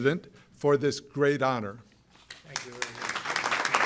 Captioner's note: applause